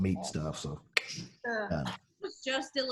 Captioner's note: clicks tongue